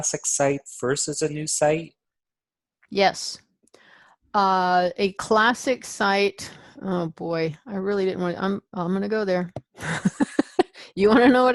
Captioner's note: chuckles